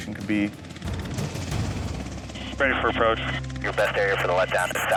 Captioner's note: helicopter whirs